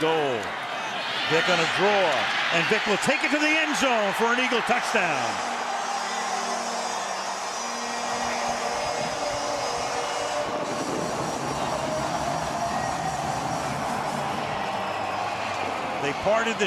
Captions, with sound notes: Second and goal, Vick on a draw. And Vick will take it to the end zone for an Eagle touchdown. [airhorn blows] [fireworks crackling]